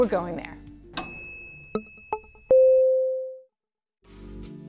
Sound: chiming; slow paced music

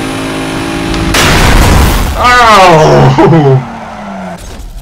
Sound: crash

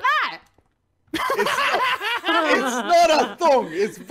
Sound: laughing

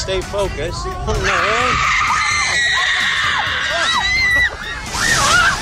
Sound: students screaming

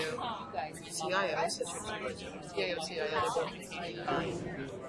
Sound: voiceover

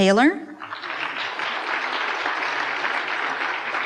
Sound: applause

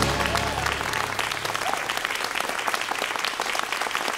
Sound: cheers and applause

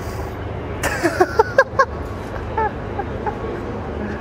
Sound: laughs in disbelief

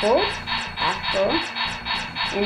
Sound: laser shots continue

